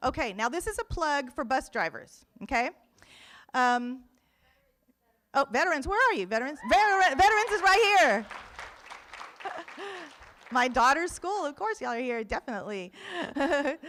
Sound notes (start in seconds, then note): 8.4 room applauds; 13.0 laughs